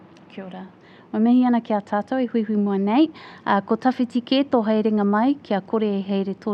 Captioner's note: speaking in foreign language